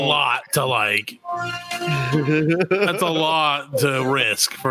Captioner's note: laughing